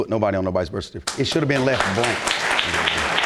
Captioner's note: audience applauding